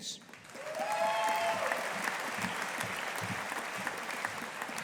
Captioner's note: audience applauding